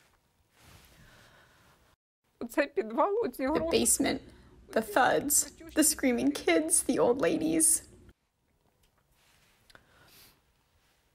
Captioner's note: through translator